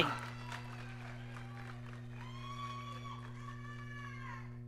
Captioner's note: audience cheering